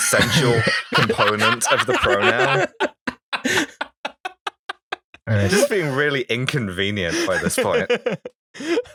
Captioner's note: laughter